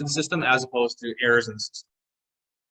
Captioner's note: audio distortion